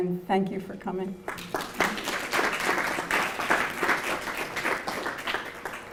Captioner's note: applause